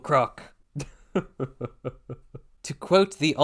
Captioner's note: grim chuckle